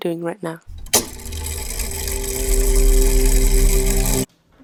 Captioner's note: mechanism whirring